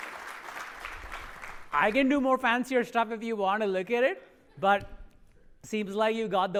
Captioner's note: applause